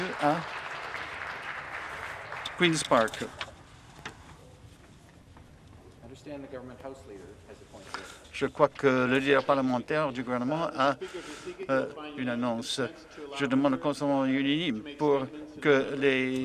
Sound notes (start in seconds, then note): 0.0 applause